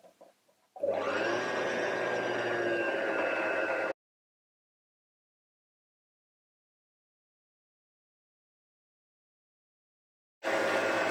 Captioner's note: bobbin spindle spinning